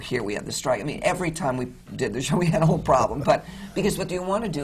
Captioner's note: laughs